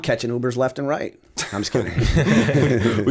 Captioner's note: chuckle